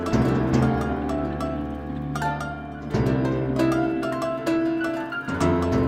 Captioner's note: none